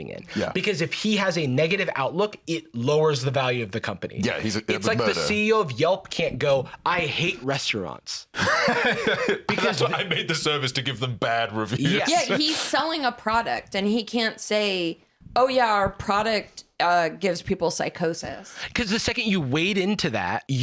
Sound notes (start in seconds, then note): 8.3 laughs